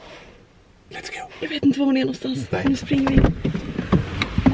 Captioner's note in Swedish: viskar